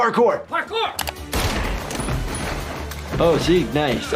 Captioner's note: gun firing